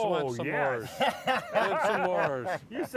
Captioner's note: laughing